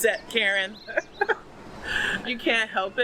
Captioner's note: laugh